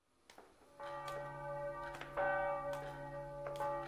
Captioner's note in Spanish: Campanadas y pasos